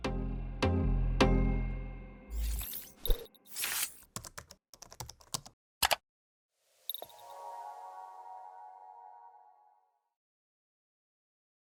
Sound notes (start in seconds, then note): 4.8 keyboard clacking; 5.8 mouse clicks; 7.0 bright music